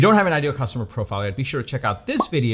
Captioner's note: pop